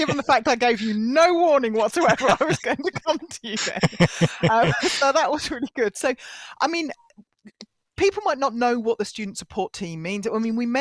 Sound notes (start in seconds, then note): 3.8 laughter